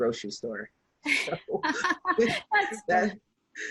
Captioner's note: laughing